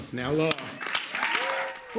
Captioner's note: cheering and applause